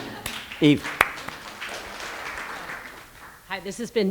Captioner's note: applause